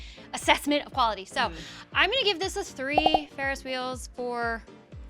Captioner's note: popping